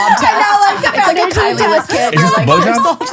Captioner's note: overlapping chatter